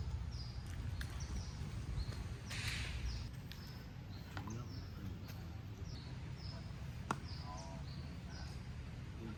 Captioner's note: horse carriage